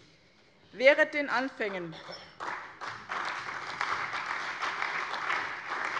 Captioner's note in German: Allgemeiner Beifall